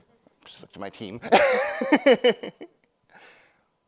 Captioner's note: attendee laughing; laughs